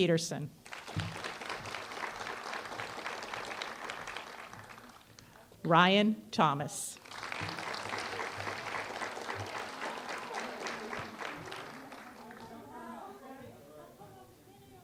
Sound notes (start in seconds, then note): 0.6 applause; 6.9 applause